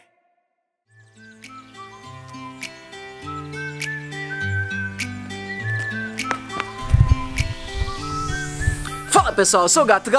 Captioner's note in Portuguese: assovios